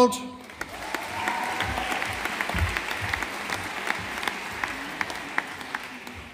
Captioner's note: audience applauding